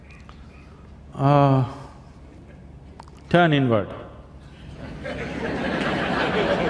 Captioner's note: laughter